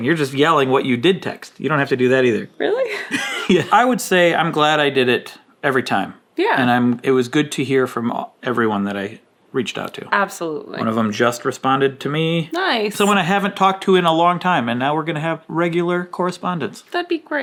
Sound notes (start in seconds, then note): 2.9 chuckling